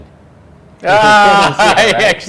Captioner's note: laughs